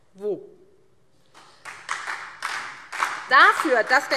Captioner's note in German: Beifall SPD